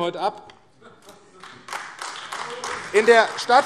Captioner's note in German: Beifall AfD